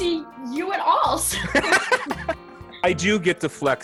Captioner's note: laughs